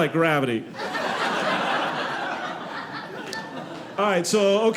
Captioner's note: audience laughing